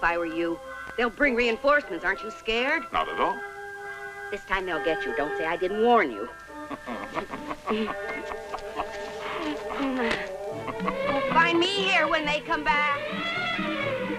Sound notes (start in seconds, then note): 6.5 laughing; 9.0 grunting